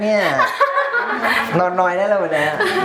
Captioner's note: laughs